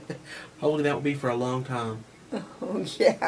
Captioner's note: laughs; laughs.. yeah.. can't be for very long